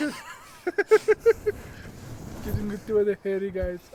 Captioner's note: laughs